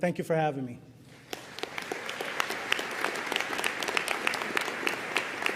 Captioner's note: audience applauding